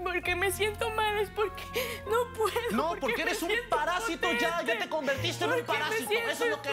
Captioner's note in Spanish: Sollozos